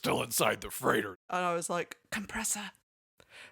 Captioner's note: whispers